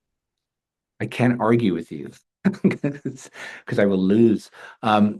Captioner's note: laughs